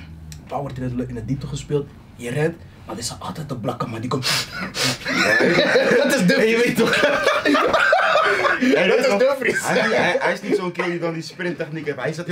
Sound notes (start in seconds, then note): 4.5 laughs